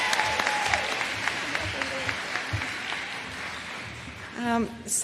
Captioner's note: applause